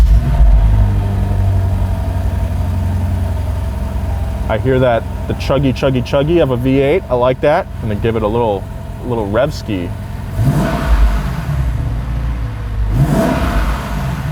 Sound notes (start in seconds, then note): 0.0 engine starting; 0.2 engine running smoothly; 10.4 engine roars smoothly